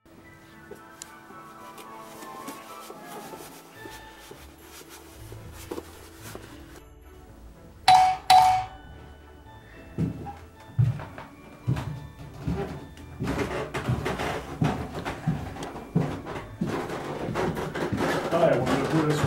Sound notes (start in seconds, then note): 7.8 christmas Music; 9.6 door bell; 14.0 stairs creeking